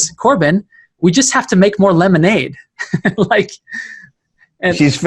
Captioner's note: laughing